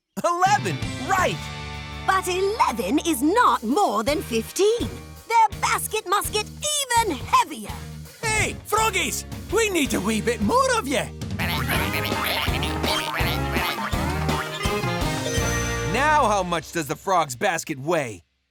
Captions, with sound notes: 11, right! But 11 is not more than 15. Their basket must get even heavier! Hey, froggies! We need a wee bit more of ya! [croaking] Now how much does the frogs' basket weigh?